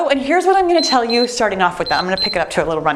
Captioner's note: timer beeps